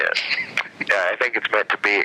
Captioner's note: laughter